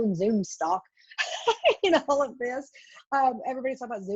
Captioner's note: laughs